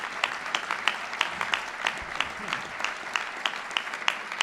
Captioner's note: applause